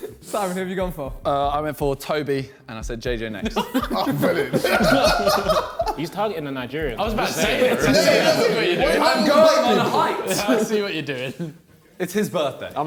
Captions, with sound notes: - Simon, who have you gone for? - I went for Tobi, and I said JJ next. (men laughing) - He's talking to Nigeria. (men chattering) - I'm going on height. - I see what you're doin'. - It's his birthday.